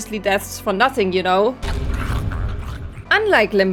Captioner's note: crunching sounds